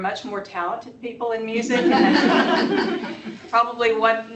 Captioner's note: laughter